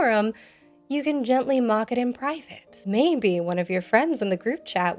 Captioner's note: none